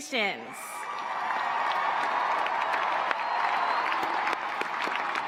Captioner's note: cheers, applause